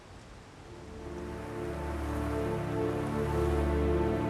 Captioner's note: wind rustling